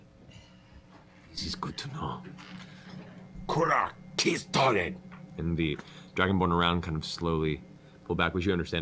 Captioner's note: speaks Draconic